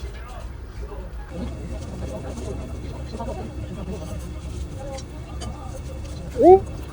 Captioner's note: haha